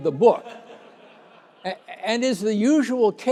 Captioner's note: laughter